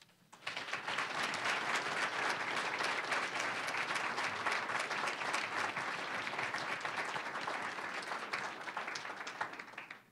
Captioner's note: applause